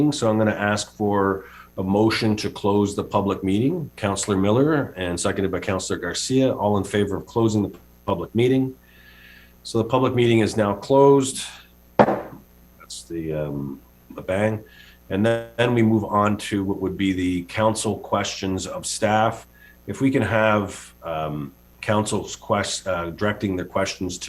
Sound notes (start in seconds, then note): 12.0 gavel taps